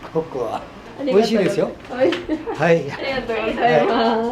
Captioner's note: laughs